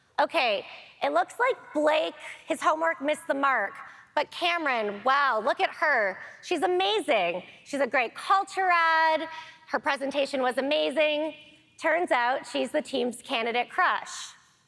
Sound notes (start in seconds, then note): none